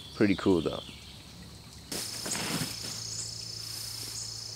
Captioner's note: creek trickling; gravel crunching